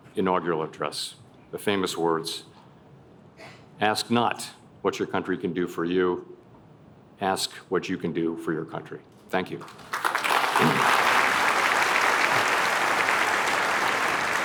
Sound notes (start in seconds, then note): 9.6 applause